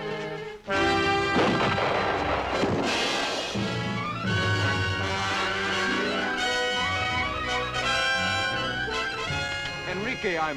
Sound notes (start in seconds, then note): 1.2 gunshot